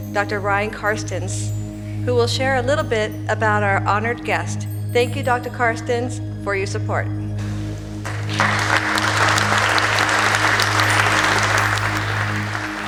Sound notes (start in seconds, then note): 8.0 applause